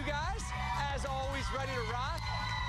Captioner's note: applause